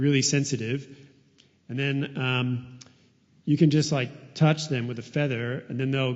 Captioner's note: none